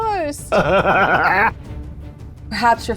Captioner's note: laughing